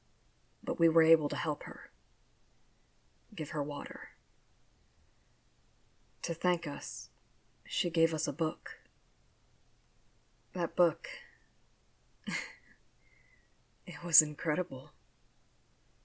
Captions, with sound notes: but we were able to help her, give her water To thank us, she gave us a book That book... *Soft laugh* it was incredible